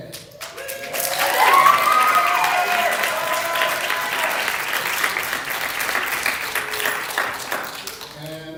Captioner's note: applause